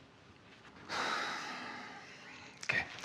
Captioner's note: Frank exhaling